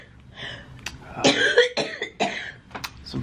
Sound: coughing

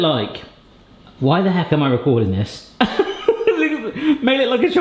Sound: laughs

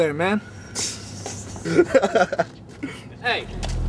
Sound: Kevin laughs

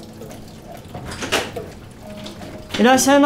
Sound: bar door opens

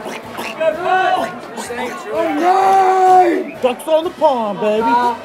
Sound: quacking

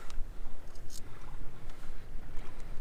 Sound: boat sounds

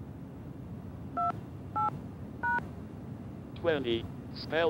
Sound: touch tone

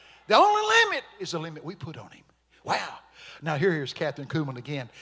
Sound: none

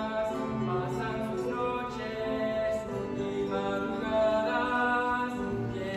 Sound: voices

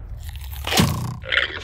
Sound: bow lands; llama exclaims

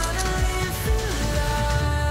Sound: camera shutter clicks

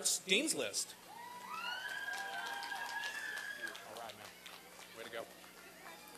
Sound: applause and cheering

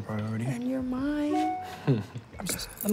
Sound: email notification chimes

